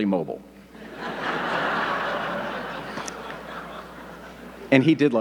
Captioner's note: audience laughing